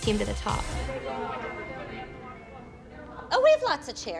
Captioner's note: women talking